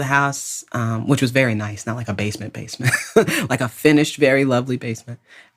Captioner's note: laughs